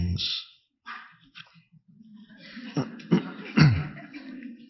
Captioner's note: audience laughing